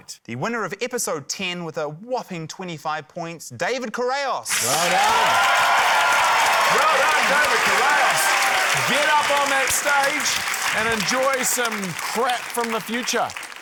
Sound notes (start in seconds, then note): 5.4 cheering, applause